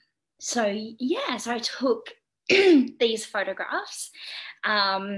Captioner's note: clears throat